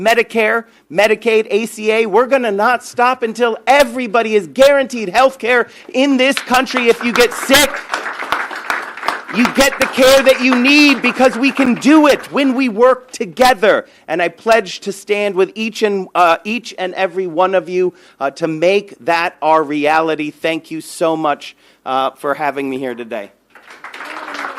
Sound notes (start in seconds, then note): 12.1 applause